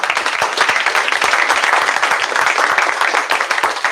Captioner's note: applause